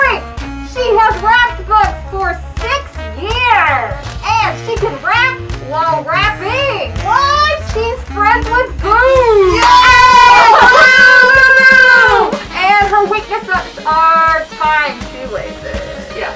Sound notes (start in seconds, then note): 9.4 cheering and booing